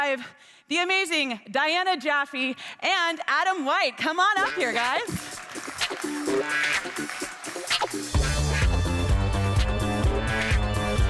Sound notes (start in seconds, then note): 5.2 upbeat music; 5.9 attendees clapping